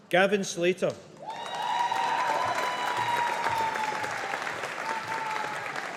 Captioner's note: audience applauding